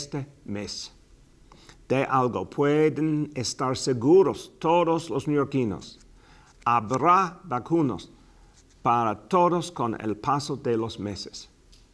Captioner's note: speaking in spananish